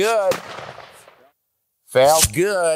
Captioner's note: gun shot